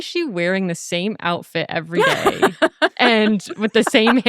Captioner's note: laughing